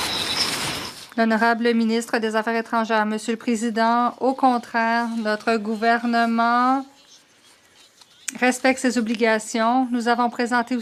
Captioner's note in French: voix de l'interprète